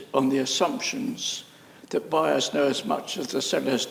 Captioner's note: none